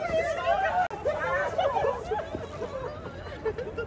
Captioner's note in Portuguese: risos